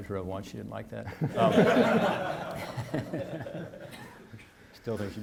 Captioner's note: audience laughing